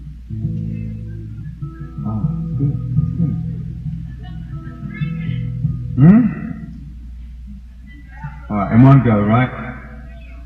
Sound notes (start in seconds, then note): 3.8 crowd heckles “Drink it”